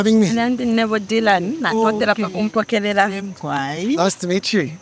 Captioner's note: interpreter speaking in foreign language